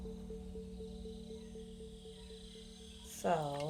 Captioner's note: insects chirp